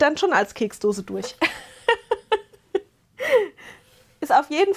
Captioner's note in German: gelächter